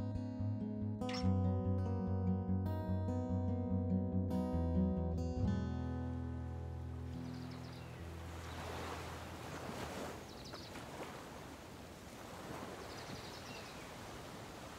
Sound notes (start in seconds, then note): 7.8 waves crashing